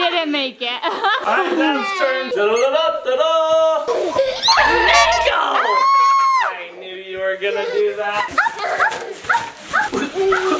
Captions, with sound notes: You didn't make it. (people laughing) - All right, dad's turn. Da da. (Children laughing) (horn beeps) Nico. (person screams) I knew you were gonna do that. (people laughing) - Hop hop.